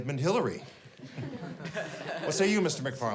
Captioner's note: class chuckles